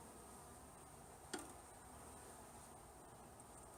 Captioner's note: clank of smoker on box